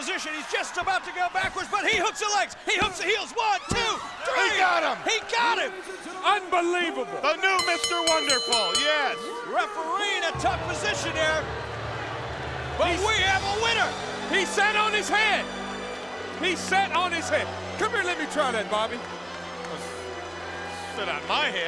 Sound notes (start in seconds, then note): 7.5 bell ringing